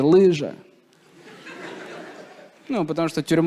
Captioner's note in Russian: смех